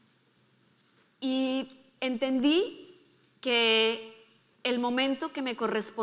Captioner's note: speaking in foreign language